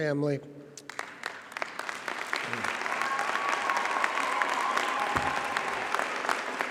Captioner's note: audience and graduates cheer and applaud